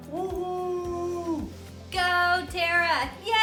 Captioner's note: whooping